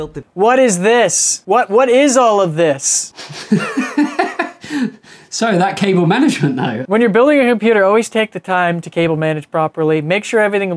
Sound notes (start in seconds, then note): 3.1 laughs